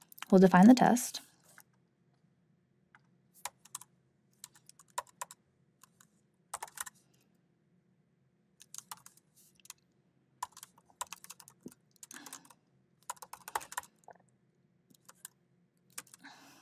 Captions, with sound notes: We'll define the test. (keyboard clacking) (keyboard clacking continues)